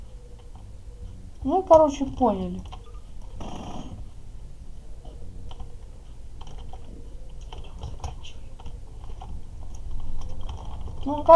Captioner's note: whispers: we finish